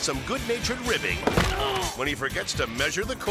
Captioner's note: body thudding